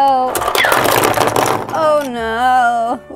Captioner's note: clattering